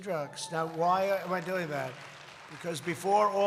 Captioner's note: applause